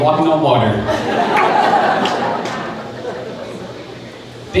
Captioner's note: crowd laughing